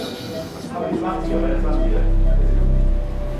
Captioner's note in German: Piepen, leises Gespräch